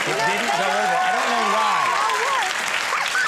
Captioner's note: audience cheering